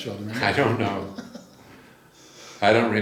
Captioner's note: laughs